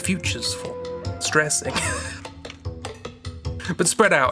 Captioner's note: laughs